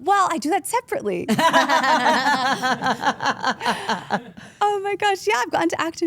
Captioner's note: group laughs